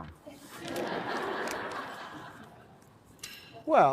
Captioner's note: laughter